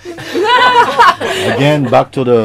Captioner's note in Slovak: Smiech